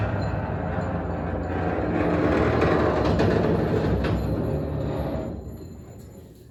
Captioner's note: trailer rumbling